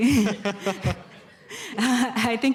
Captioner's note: laughter